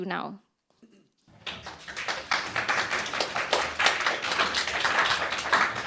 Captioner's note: audience applauding